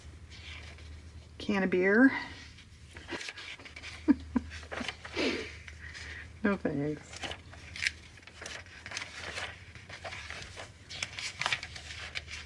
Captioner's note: laughs